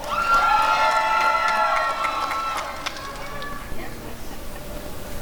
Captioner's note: applause and cheering